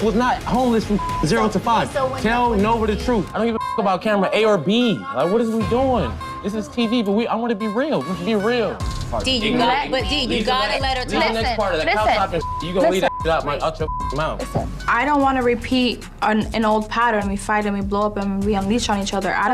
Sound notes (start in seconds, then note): 3.3 beep; 11.9 beep